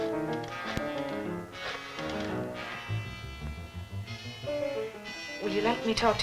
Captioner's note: rotary dialing